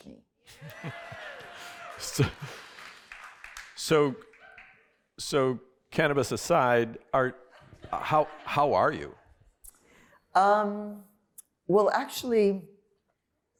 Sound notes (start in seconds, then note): 0.3 laughter; 0.6 applause; 7.4 laughter